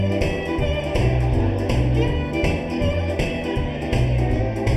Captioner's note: group chattering